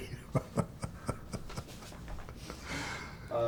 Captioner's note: chuckling